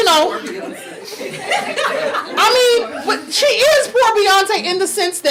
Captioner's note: audience laughing